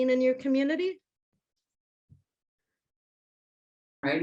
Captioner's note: no audio